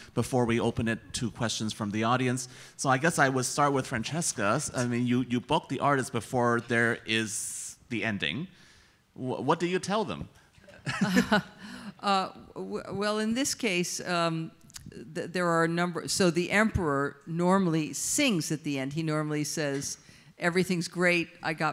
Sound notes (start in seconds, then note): 10.7 laughs